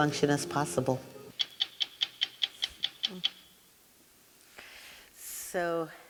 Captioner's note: stopwatch ticking